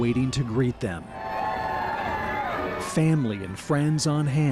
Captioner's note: cheering as vets come off the plane